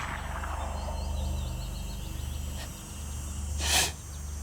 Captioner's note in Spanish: Disparo